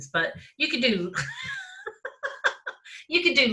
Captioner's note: laughs